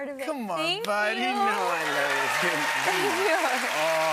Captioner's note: cheers and applause